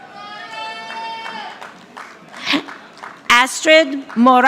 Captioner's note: audience applauding